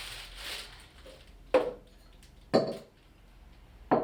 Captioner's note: crinkling; knock